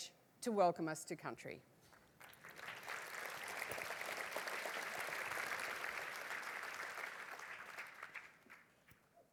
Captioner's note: applause